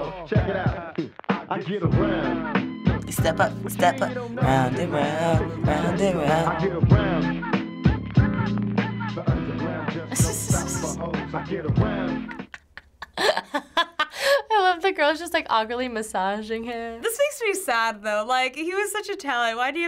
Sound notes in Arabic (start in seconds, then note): 2.8 الغناء على طول; 9.9 الضحك; 12.3 يضحك